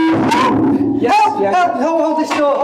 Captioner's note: microphone sounding